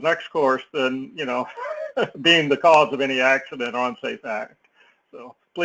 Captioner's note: laugh